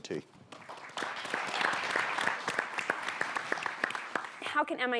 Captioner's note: audience clapping